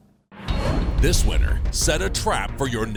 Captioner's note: voiceover